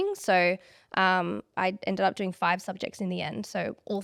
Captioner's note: none